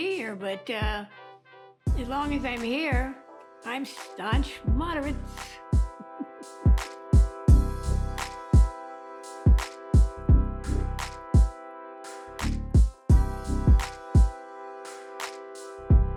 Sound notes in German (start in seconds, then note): 6.0 lacht